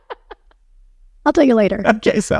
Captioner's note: laughing